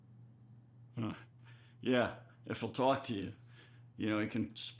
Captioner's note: chuckles